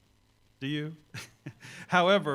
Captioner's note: chuckles